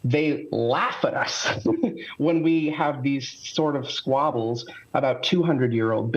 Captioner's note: laughter